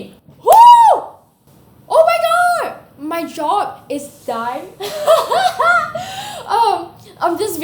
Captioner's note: laughs